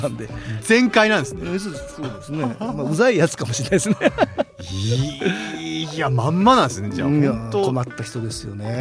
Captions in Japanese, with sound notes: 番で全開なんですね。そうです。そうですね。 うざいやつかもしれないですね。 [笑い] いや、まんまなんですね。じゃあ本当困った人ですよね。